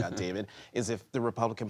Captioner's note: laughter